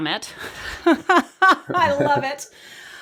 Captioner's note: laughs